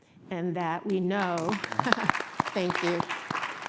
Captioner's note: applause